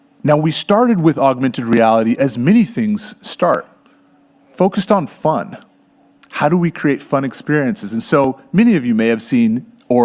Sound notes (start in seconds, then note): none